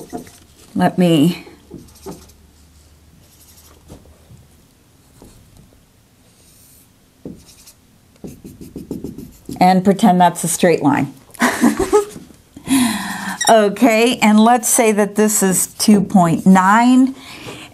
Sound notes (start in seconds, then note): 3.1 sound of writing; 11.4 laughs